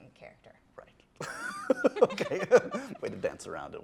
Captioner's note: laughs